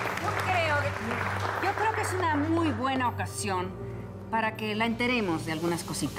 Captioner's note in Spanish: Aplausos